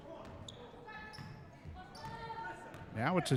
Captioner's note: dribbling